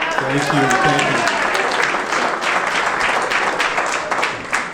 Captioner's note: audience clapping